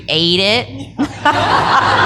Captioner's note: laughter